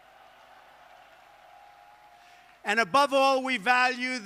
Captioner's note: applause